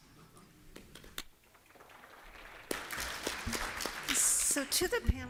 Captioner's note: applause